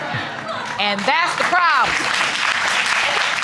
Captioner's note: audience claps